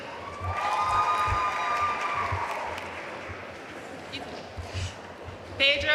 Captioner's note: audience cheering and applauding